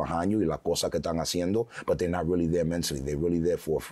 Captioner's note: speaking foreign language